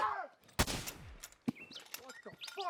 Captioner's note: gun fires